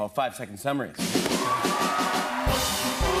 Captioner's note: cheering and applause